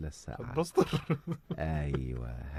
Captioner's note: laughter